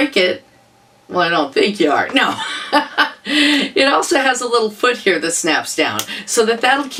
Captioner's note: laughter